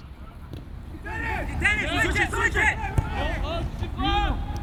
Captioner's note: players shouting